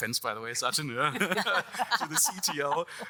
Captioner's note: all laughing